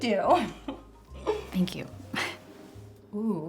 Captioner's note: chuckles; gasps